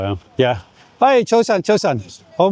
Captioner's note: speaking in foreign language